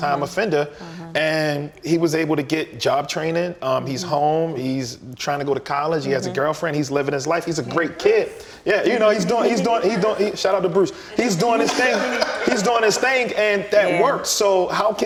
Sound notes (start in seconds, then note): 9.0 all chuckling; 11.1 all laughing